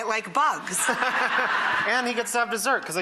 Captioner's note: audience laughs